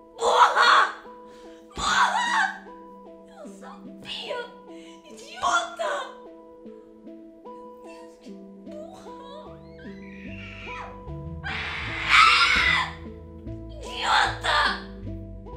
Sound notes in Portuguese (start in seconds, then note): 11.4 Grito